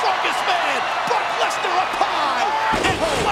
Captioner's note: crowd roaring; floor slamming